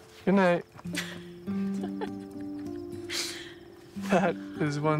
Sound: Grace laughing

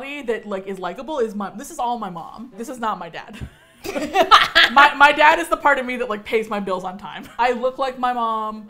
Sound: laughs

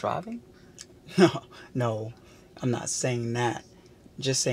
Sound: chuckles

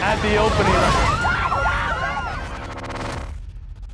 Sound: girls screaming

